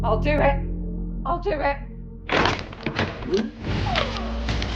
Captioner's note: Kellogg clattering and whirring; chilling music